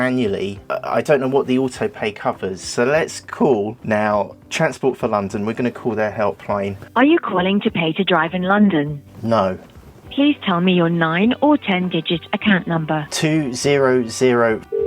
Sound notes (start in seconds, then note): 6.6 on the phone call